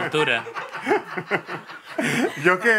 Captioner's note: laughs